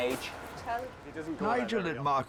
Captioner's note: staff chattering